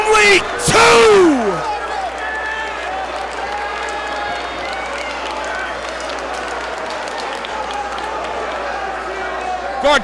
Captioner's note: applause